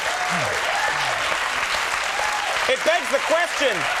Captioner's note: audience cheering